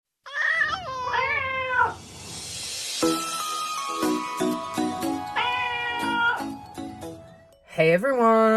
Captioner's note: meowing Cats